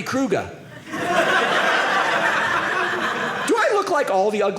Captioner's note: audience laughing